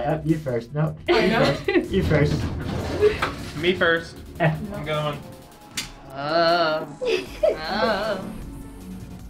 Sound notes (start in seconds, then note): 1.2 women giggling; 6.8 women giggle